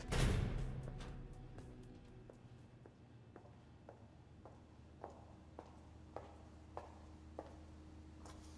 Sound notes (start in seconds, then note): 0.0 door banging shut; 3.4 footsteps approaching